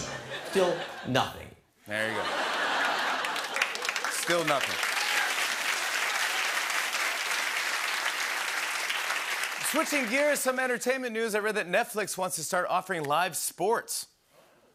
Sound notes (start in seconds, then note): 2.0 laughter; 5.2 applause